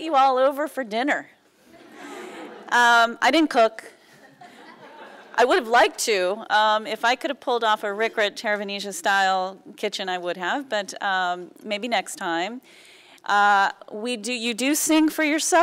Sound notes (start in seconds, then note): 1.7 laughs